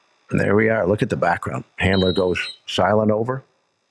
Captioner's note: whistle blows